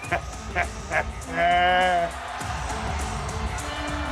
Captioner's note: laugh